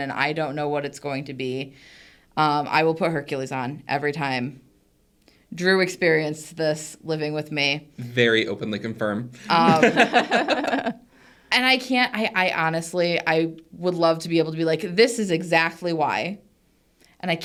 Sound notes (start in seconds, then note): 9.4 participants laughing